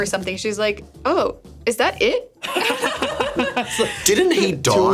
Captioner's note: laughs